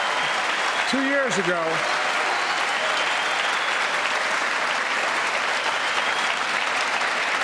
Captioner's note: cheers and applause